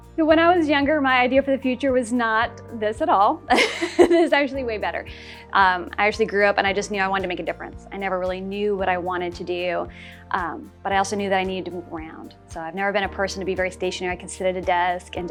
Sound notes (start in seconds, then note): 3.5 laugh